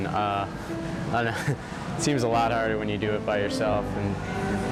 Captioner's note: chuckling